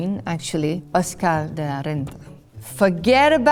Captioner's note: speaking French